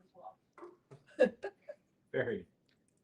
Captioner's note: chuckling